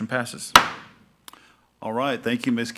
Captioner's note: gavel banging